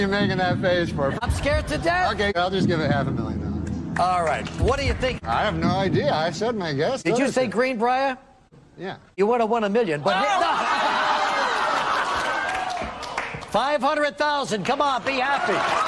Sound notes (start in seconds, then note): 11.6 gasps, cries, claps